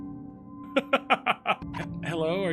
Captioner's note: Skull laughs